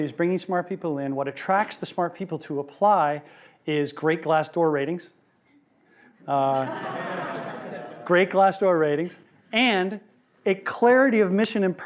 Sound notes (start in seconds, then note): 6.4 laughing